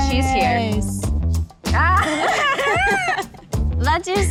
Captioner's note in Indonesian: Tertawa